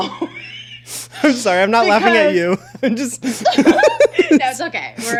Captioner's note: laughs